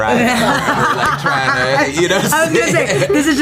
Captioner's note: laughs